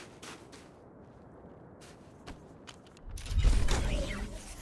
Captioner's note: gunshots